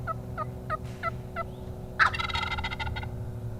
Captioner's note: turkey peeping